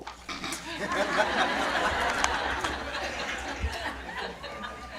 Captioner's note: audience laughing